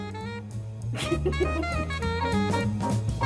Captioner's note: giggles